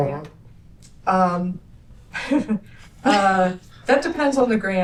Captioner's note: laughter